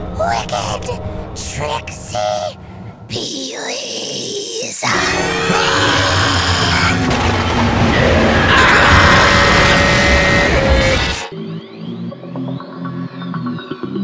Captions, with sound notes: - Wicked, tricky peelys. (screaming) (growling) (electronic music)